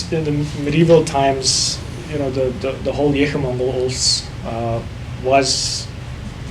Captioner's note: speaking foreign language